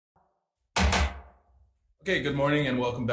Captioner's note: gavel bangs